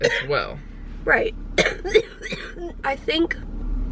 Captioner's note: coughing